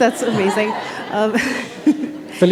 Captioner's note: chuckle